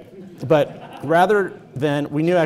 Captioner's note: audience laughing